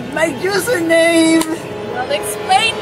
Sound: racist ass clap

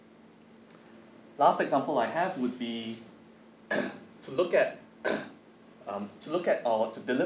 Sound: cough

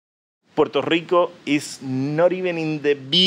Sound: voiceover

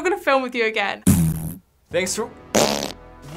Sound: deep fart; farting

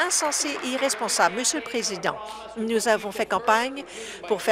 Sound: applause

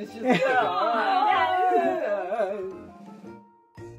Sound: the whole cast whine

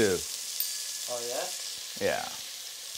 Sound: dinging

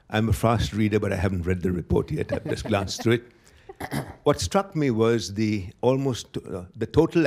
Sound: laughter

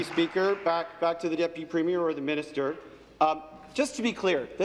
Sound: applause

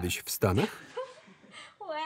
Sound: laughter

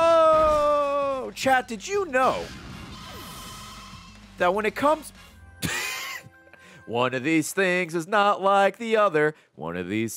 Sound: laughs

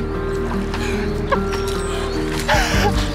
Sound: laughter

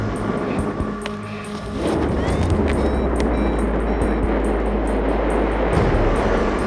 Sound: strong wind gusts; alarm sounds

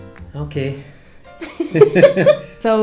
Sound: both laugh

